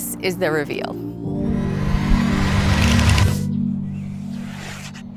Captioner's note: dramatic whirling